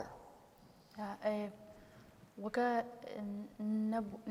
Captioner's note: speaking kurdish